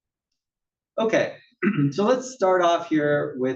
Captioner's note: cough